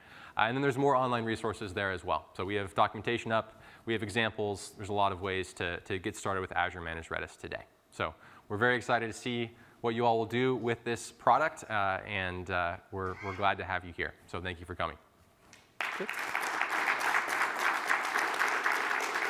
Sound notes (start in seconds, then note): 15.7 applause